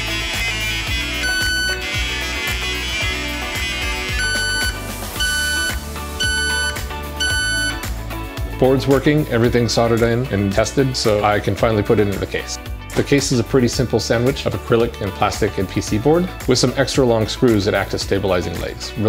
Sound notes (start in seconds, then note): 0.0 ominous Computer Sounds; 5.2 even More Ominous Beeping